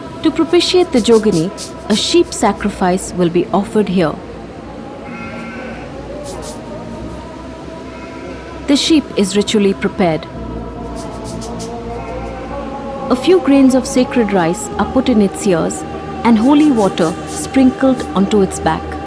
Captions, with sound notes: To propitiate the Jogini, a sheep sacrifice will be offered here. (sheep bleating) (eerie music) The sheep is ritually prepared. (eerie music) A few grains of sacred rice are put in its ears and holy water sprinkled onto its back.